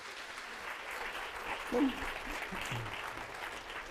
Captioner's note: applause